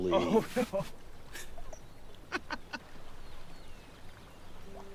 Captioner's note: Kent laughing